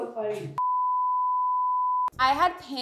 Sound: monitor beeping

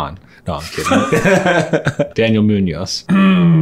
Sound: laughing

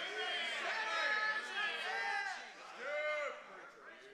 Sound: congregation cheers

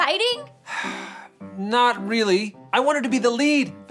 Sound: sighs

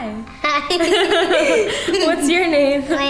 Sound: laughing

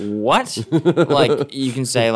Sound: laughing

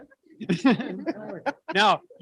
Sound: woman laughs

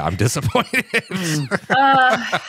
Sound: laughs

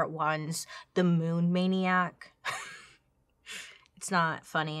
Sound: laughs

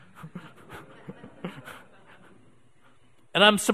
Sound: audience laughing

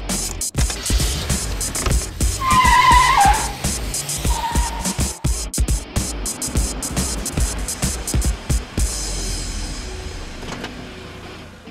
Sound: car engine starts and peels away

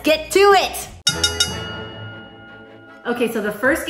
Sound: bell dinging

